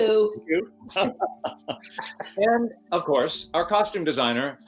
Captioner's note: laughing